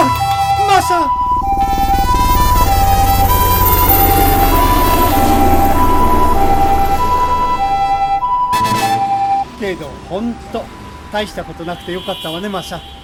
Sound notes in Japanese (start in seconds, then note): 1.8 ピーポーピーポーの音; 5.2 ヘリコプターの音